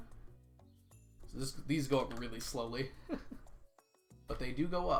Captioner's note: laughs